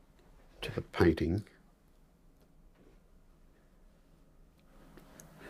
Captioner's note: silence